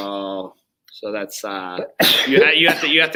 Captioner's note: coughs; sneezes